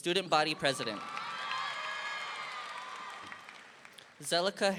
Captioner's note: audience applauding